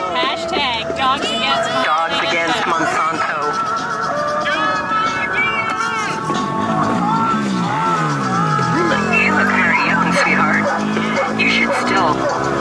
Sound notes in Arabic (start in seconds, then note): 8.2 صوت عبر مكبر الصوت